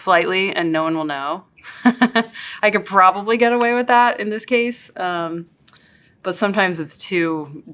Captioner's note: laugh